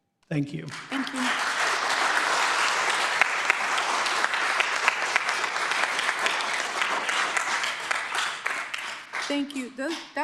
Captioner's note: applause